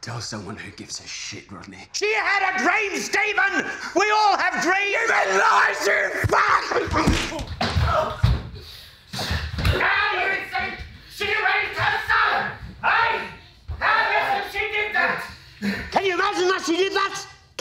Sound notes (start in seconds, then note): 6.4 men yell and scuffle